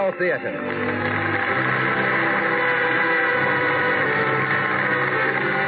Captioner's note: applause